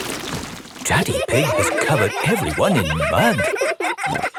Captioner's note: all laughing